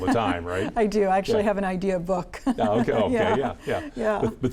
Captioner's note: laughs